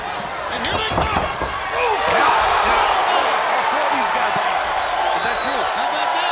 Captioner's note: applause